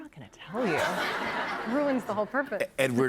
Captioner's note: laughter